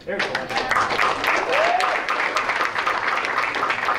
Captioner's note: applause